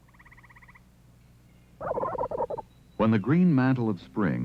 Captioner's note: turkey gobbling